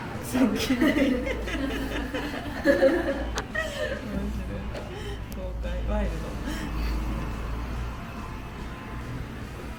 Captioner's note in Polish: śmiech